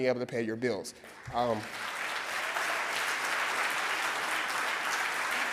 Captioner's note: audience clapping